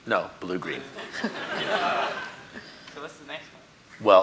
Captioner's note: audience laughing